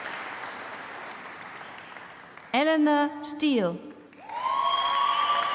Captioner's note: applause